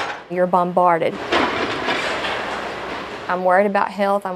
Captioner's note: scraping; mechanical clanking